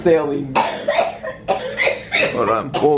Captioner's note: coughing